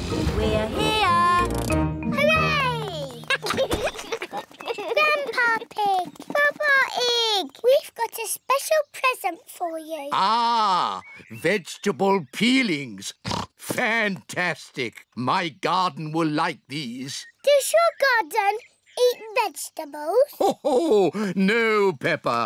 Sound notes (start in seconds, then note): 3.2 giggling; 13.2 oinks; 20.3 laughs